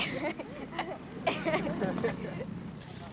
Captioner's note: both laughing